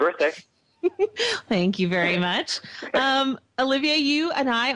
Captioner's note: laughs